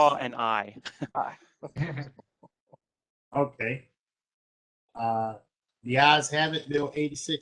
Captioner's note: laughter